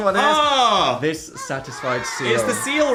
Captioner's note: children exclaiming